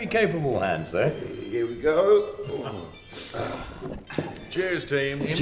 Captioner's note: groaning